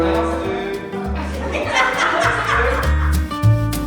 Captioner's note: laughing